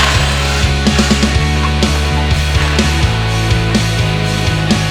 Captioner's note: upbeat music; drill sound; clattering